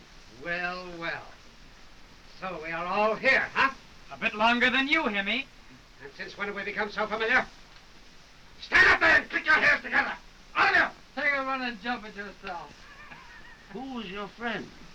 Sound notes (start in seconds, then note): 12.6 laughing